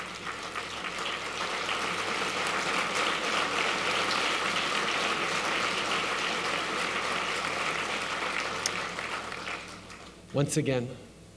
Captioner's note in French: Applaudissements